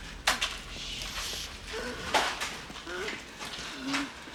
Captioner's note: Towers Gasping